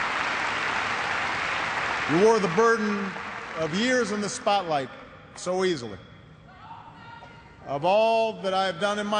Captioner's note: cheers and applause